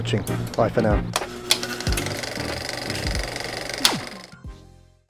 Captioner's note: film reel spinning